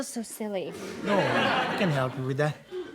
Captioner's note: audience laughs